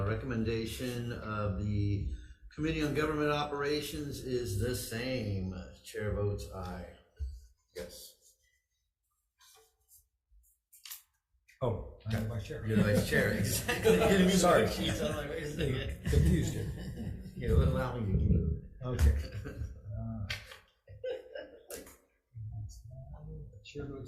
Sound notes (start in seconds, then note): 12.6 laughter and commotion; 20.8 laughter